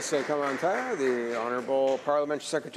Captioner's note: some Applause